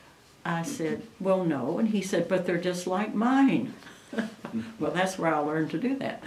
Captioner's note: laughs